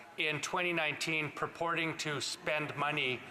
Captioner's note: none